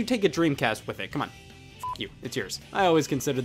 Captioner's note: beeps